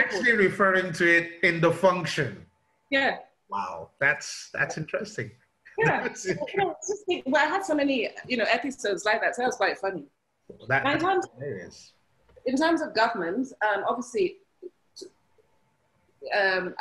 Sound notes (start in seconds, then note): 5.8 laughing